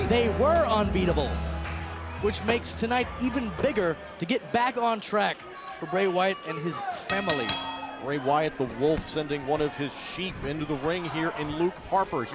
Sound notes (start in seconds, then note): 8.9 bell ringing